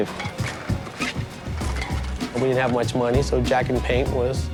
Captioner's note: paint cans rattling